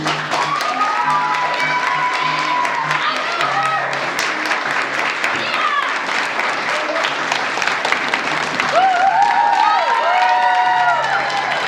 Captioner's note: applause